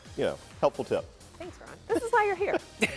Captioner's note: laughter